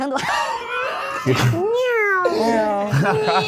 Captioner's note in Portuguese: risadas